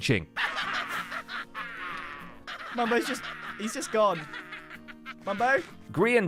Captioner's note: impish laughter